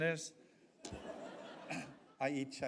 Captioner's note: audience laughs